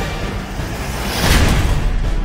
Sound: gunfight

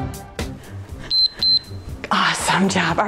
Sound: timer beeps

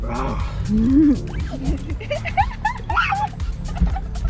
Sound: laughs

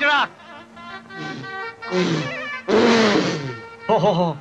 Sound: blows Air

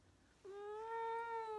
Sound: meowing

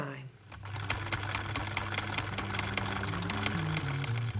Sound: film reel rolling

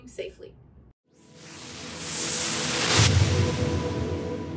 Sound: whooshing sound

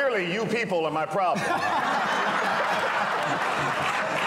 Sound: laughter

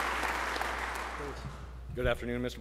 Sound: applause

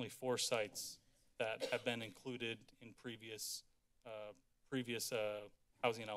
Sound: coughs

